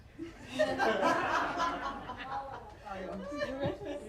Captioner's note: laughter